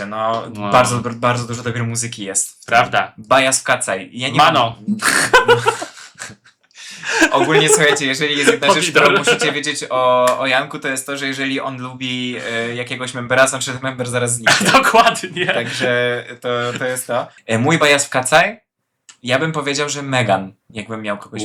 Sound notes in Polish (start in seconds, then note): 5.0 śmiech; 6.7 wciągnięcie powietrza